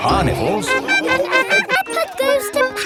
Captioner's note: laughing